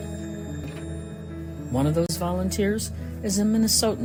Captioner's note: AMBI: sound of wheelchair lift